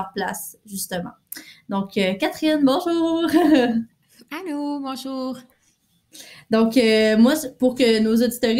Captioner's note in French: rires